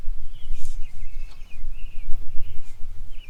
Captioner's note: birds singing